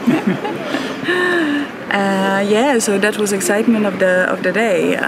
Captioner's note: laughs